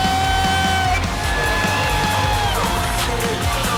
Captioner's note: cheering